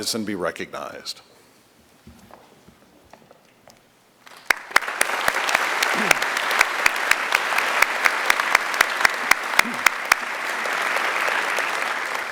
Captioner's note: applause